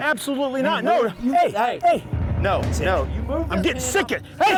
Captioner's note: shouting over each other